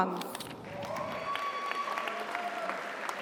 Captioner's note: audience applauds; audience cheers